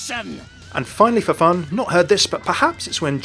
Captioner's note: voiceover